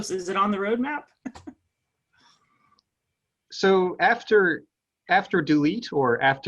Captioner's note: laugh